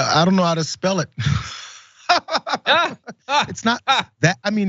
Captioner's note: laugh